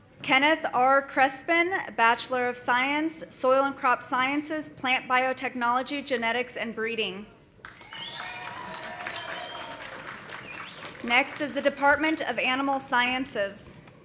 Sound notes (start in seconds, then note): 7.6 audience applauding; 7.7 audience cheering